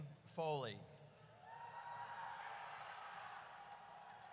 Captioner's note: audience cheers